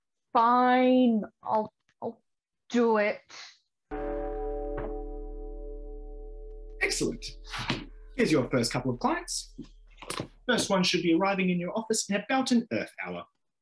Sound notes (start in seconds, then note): 3.9 bell Tolls